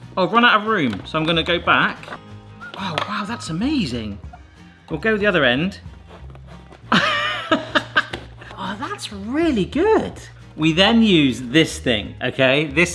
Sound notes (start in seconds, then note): 0.0 bright whistling music; 6.8 laughs